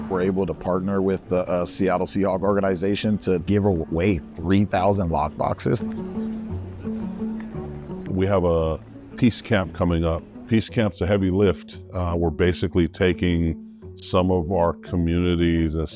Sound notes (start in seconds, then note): 6.1 bright music continues; 6.1 crowd chattering